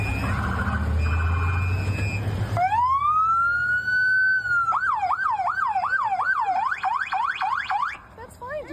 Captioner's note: sirens